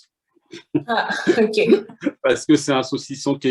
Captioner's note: laughter